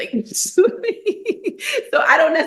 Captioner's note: laughing